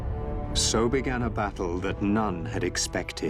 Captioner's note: narrator reading on-screen text